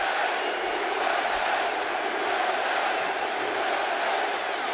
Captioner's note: audience chanting